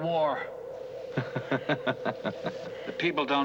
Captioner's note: laughing